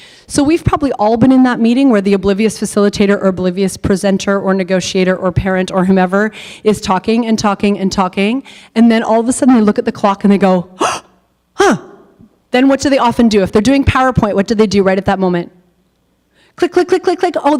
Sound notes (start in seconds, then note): 10.8 gasps